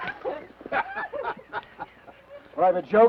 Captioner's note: Theodore laughs; Laura laughs